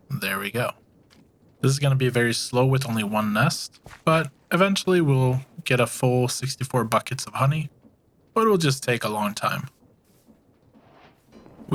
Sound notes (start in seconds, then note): none